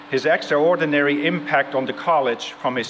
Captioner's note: none